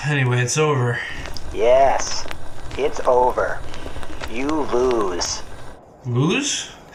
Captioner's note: scratchy robot voice